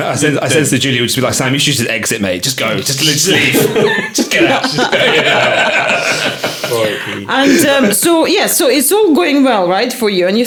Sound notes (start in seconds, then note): 3.2 laughing